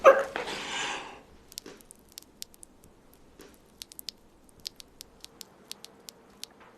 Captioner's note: blood dripping